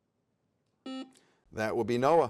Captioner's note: buzzer sounds